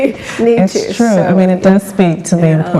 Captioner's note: laughs